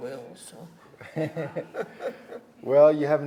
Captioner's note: both chuckle